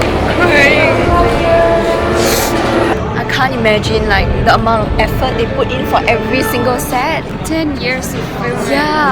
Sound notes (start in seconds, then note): 2.1 sniffles